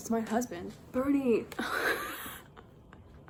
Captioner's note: laughs